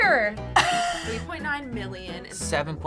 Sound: chuckling

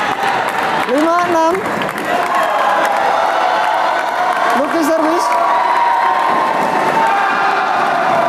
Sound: applause

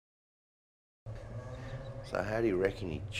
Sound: bird chirps

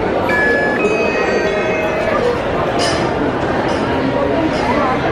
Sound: electronic beep

